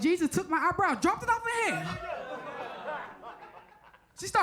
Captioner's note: audience laughs